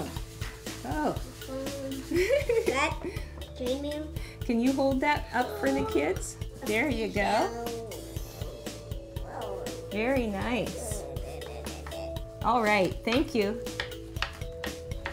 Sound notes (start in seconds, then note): 1.7 laughing